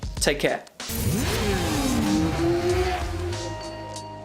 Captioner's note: motor engines revving; upbeat music